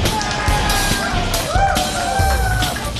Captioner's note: cheering